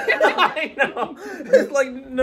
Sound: both laughing

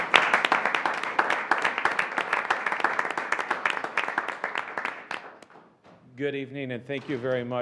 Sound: applause

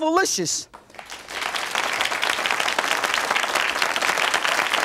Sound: audience claps

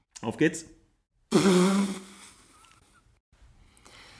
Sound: snorts; laughs

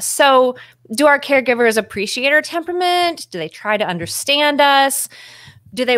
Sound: none

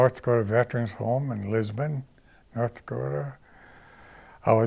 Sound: none

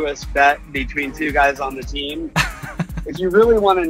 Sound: laughs

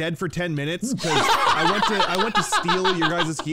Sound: laughing

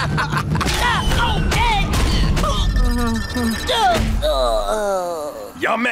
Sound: grunting, groaning

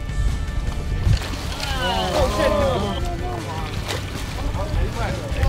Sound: water splashing; men shouting excitedly

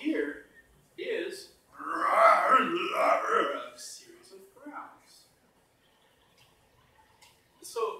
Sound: growling

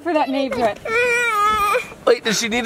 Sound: whining

